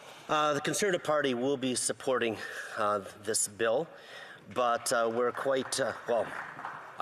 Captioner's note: speaking French